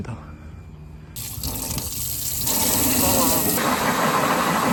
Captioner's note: rinsing